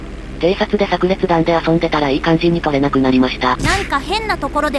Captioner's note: laughs